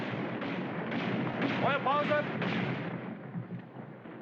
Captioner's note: gunfire Stops